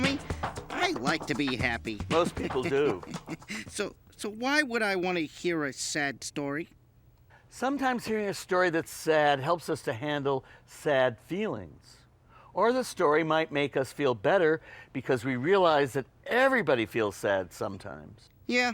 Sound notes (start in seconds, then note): 2.1 chuckles